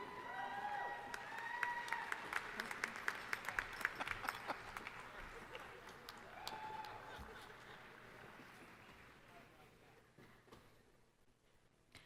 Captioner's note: applause